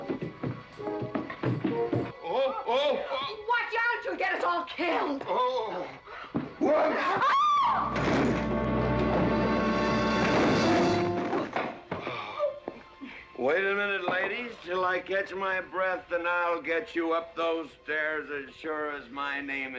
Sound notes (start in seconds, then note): 0.0 clumsy footsteps up stairs; 6.7 ladies scream; 8.0 tumbling down stairs